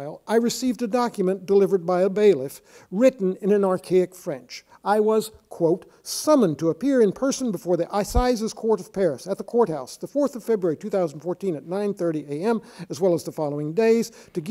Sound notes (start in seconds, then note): 7.8 speaking in foreign language